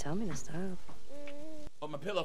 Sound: baby groaning

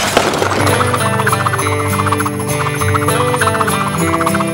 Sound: swooshing

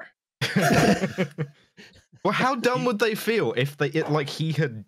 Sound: laughter

